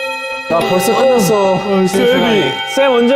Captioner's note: yawning